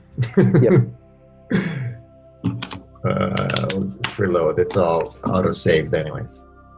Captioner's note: laughs